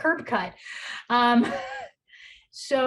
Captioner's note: chuckles